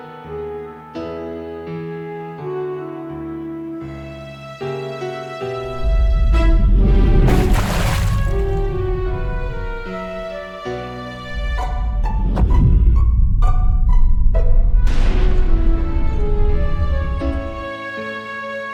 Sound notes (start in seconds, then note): 0.0 slow piano; 7.3 gas explosion; 11.2 gas explosion; 14.9 burst